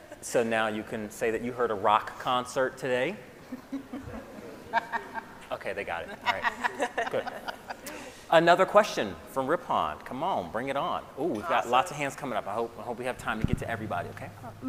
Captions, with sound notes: - So now you can say you heard a rock concert today. (all laughing) Okay, they got it, right, good. Another question from Rippon. Come on, bring it on. Ooh, we got lots of hands comin' up. I hope we have time to get to everybody, okay?